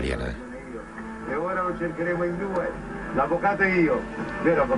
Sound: audio in Italian

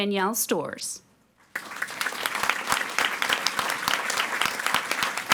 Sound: audience applauding

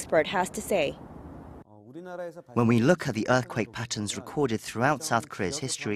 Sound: Korean

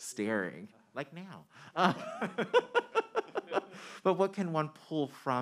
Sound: man laughing

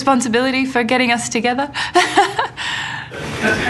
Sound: laughs

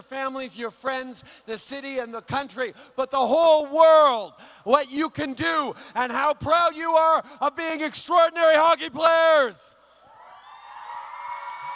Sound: acclamations

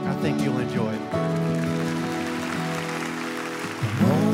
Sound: applause

